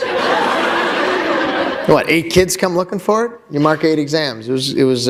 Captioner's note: laughter